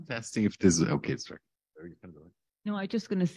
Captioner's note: speaking faintly